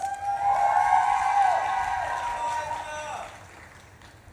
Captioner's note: audience claps and cheers